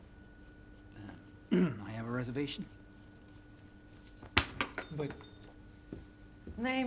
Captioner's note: clears throat